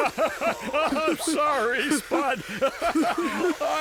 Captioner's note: laughing